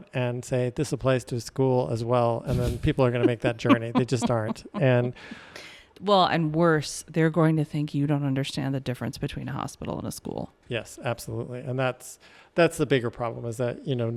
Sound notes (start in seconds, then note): 2.5 laughs